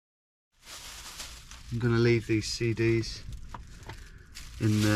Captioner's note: plastic rustles